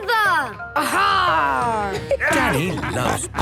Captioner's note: laughter